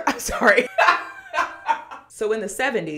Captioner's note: laughs